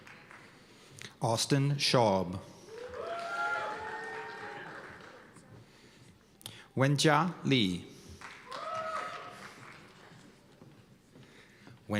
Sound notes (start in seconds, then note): 2.6 cheers and applause; 8.2 cheers and applause